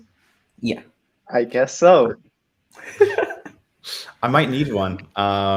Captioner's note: laughs